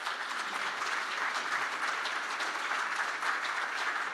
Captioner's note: audience applauds